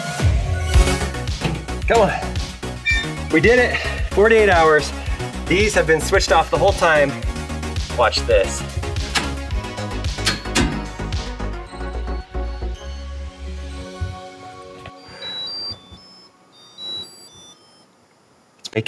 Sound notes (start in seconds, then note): 0.2 cheerful music; 2.7 door squeaks; 10.2 switches clicking; 14.8 electronic beeps